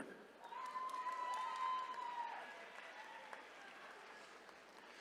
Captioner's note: attendees cheering